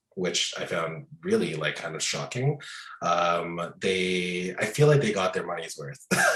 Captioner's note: both laughing